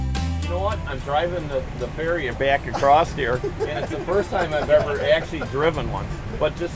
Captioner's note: laughing